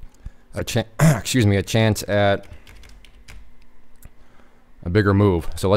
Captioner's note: coughing